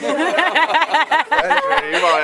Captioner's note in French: rires